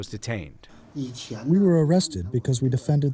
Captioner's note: through translator